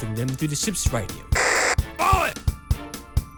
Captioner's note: radio Static